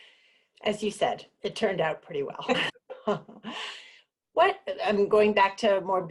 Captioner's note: laughs